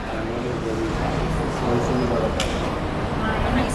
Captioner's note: station ambience